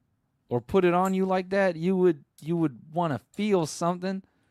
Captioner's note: none